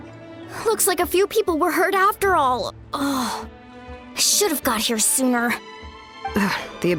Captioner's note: sigh